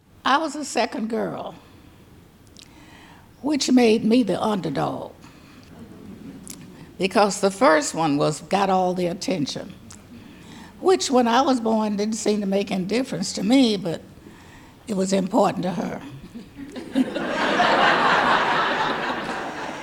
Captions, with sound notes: I was the second girl, which made me the underdog because the first one was, got all the attention which when I was born didn't seem to make any difference to me, but it was important to her (audience laughing)